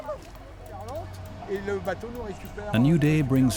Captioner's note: man speaking French